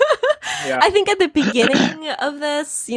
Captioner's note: laughing; clearing throat